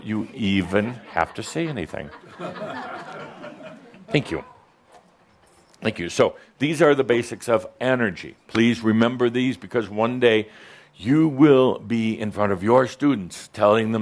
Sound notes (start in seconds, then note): 2.7 some chuckles